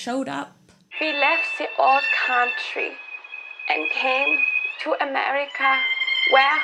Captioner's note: cliched fake turn of the century immigrant accent